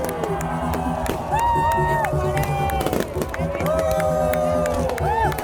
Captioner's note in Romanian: Aplauze